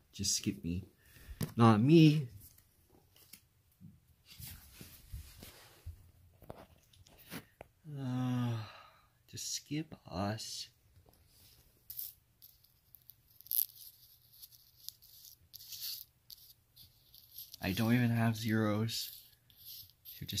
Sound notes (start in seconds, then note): 4.5 sighs